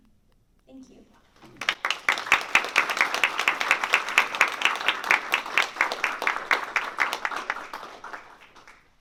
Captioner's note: applause